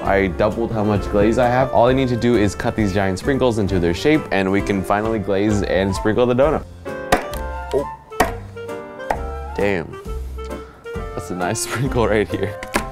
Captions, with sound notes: I doubled how much glaze I have. All I need to do is cut these giant sprinkles into their shape and we can finally glaze and sprinkle the donut. (happy music) (knife thudding) Damn, that's a nice sprinkle right here.